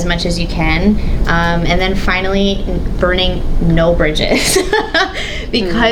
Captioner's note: laughs